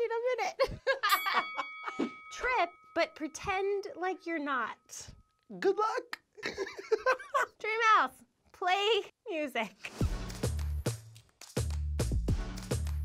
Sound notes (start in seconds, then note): 0.3 laughing; 1.0 ding; 6.2 laughs; 9.9 upbeat music plays